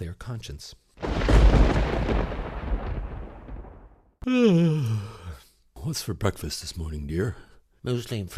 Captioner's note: thunder